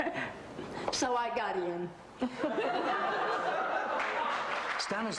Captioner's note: audience laughs